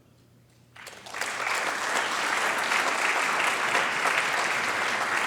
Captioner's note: audience applauding